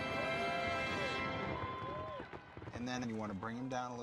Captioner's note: crowd cheering